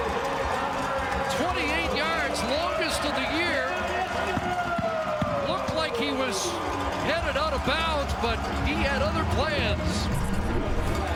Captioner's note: cheering and Applause